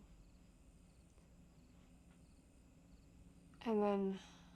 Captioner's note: crickets chirping